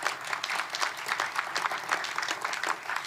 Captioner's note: applause